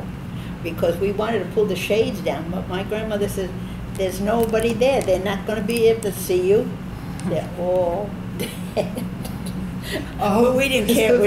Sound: both laugh

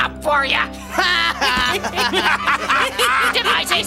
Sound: laughing sinisterly

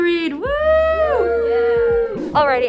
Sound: everyone cheers

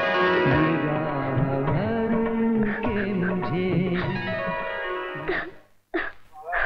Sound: crying

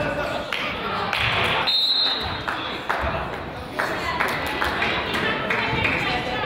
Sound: crowd applauds; whistle blows

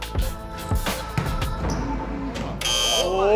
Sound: ball bouncing; buzzer buzzing

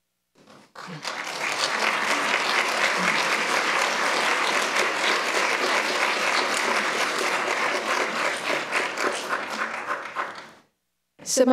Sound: applauds

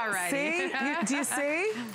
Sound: laughter

